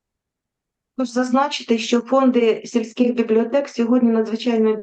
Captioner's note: foreign Language